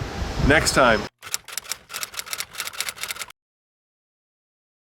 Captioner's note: clicking